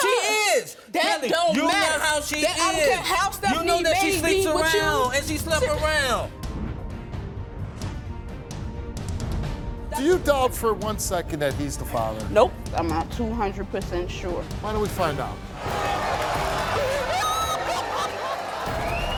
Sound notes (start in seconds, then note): 6.3 simmering music; 15.5 audience roars; 16.8 wailing